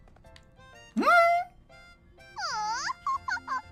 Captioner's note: Metal Gear Solid alert sound